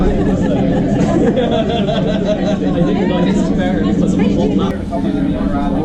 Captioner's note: more noisy madness